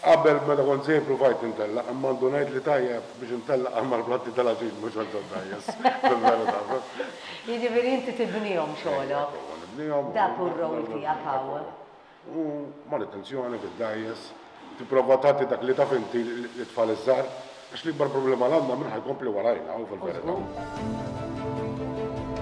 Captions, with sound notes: When I was younger I tried, but I realised I was only good in eating competitions. [both chuckle] -So you're a boat builder. -Yes. That's your main role. I do boat maintenance, and when I can I pass on my skills to the young. Our main concern is who will continue our trade. [motivational music]